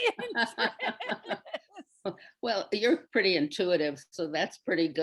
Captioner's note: laughs